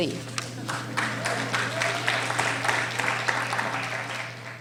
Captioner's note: applauding